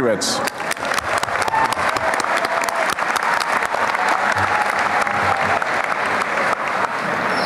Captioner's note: applause